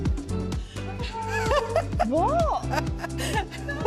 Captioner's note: laughter